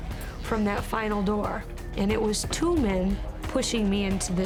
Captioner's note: none